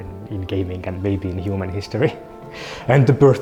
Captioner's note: chuckles